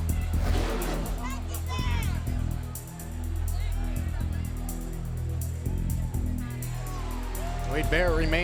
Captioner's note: crowd chatter